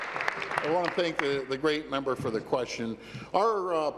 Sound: applause

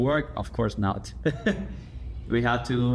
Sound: laughter

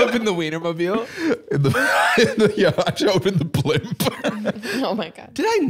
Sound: laughs

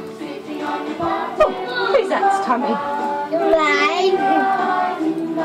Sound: chuckles

